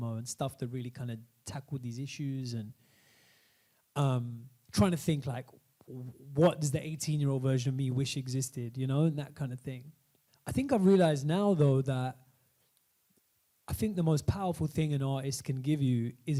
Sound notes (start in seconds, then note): none